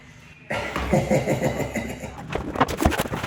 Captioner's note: laughing